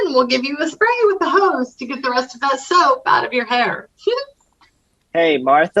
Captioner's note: laughs